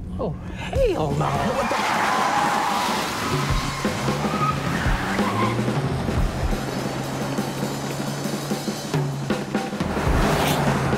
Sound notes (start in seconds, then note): 1.7 brakes squeal; 5.6 energetic music